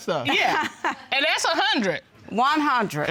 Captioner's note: laughing